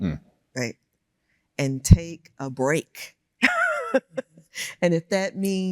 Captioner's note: laughs